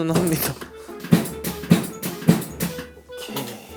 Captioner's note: bumpx3